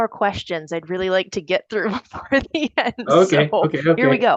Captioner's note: laughing